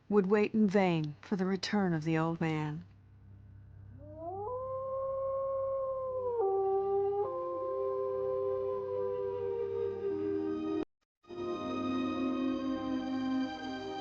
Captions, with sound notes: would wait in vain for the return of "The Old Man." (wolf howling) (somber music) (wolf continues howling)